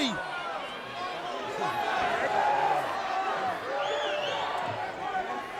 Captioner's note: crowd chattering